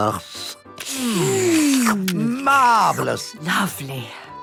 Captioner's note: slurping